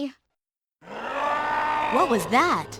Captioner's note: roar